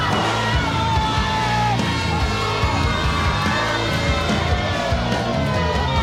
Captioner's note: audience boos